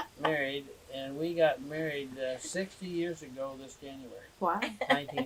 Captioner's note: laughter